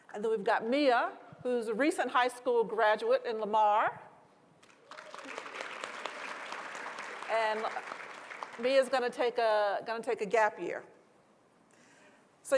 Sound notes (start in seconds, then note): 4.6 applause